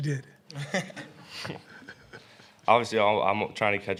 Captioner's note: laughter